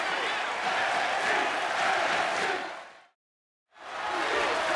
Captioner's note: crowd chanting